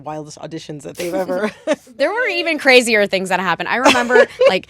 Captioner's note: laughter